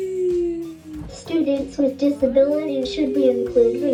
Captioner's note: computerized Voice